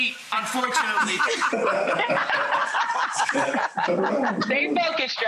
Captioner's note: Rachel laughing